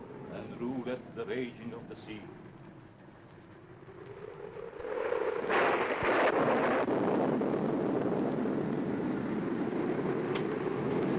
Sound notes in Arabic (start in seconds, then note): 3.5 هدير الريح; 4.9 صوت الرعد